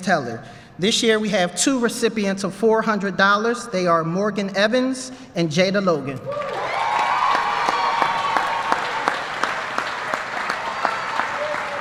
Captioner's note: applause